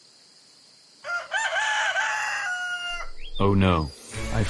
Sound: rooster crowing

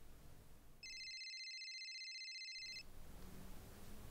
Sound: phone rings

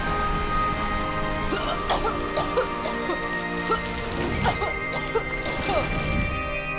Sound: coughing

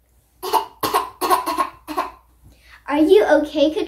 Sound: continues to cough

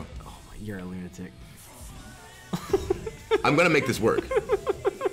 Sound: laugh

